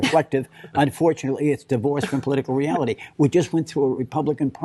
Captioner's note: laughter